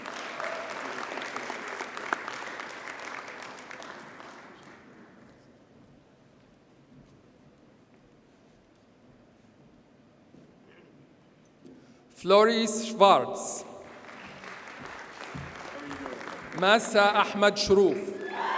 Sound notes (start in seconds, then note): 0.0 audience cheers and applauds; 13.8 audience applauds